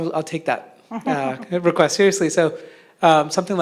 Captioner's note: laugh